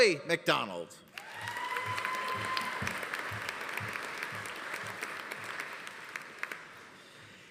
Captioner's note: audience applauding; audience cheering